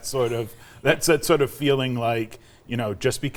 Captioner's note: laughing